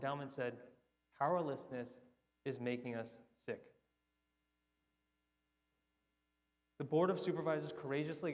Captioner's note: none